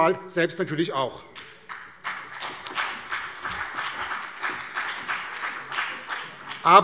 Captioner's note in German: Beifall BÜNDNIS 90/DIE GRÜNEN und vereinzelt CDU